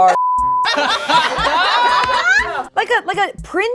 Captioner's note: group laughing